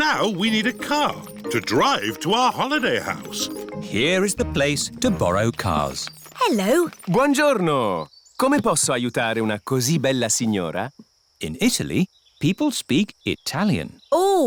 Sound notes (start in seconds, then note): 8.5 speaks italian